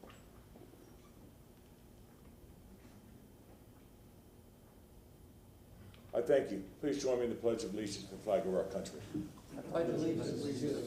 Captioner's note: momt of silence